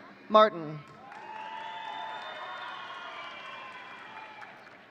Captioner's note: audience cheering